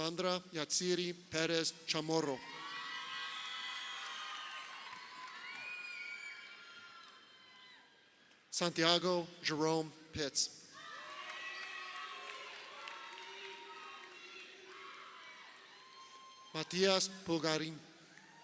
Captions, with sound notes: Sandra Jatziry Perez-Chamorro. (crowd cheering) Santiago Jerome Pitts. (crowd cheering) Matias Pulgarin.